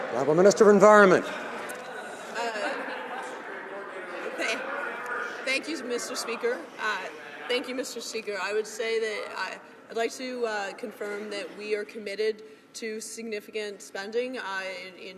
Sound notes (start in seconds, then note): 4.6 some Applause